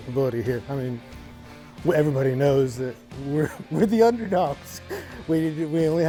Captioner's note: laughs